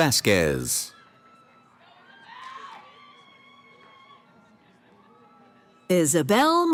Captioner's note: cheering